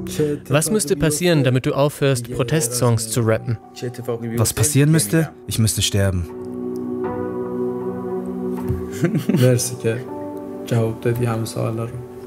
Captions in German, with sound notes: Was müsste passieren, damit du aufhörst Protestsongs zu rappen? Was passieren müsste? Ich müsste sterben. (Beklemmende Musik) (Sie sprechen in ihrer Sprache.)